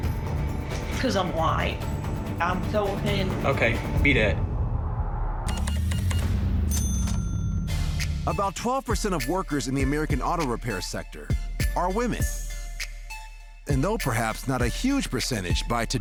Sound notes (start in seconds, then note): 6.6 cash register beeping, dings